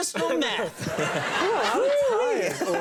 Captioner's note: all laughing